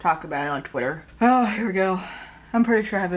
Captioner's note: heavy sigh